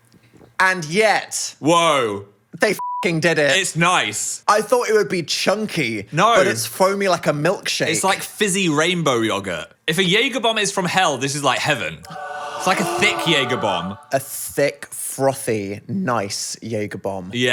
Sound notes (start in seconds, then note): 2.8 beep; 12.6 gasps